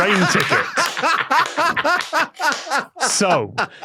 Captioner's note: guests laugh heartily